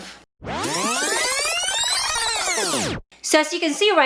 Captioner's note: tape reeling